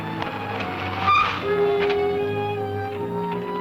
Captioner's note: brakes screeching